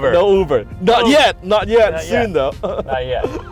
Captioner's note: laughing